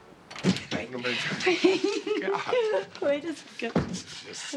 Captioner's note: chattering, laughing